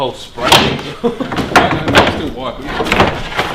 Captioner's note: loud bang